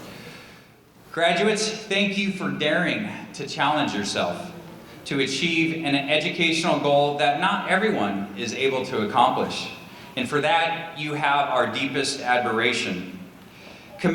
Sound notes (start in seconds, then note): none